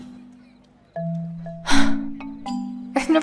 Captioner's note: sigh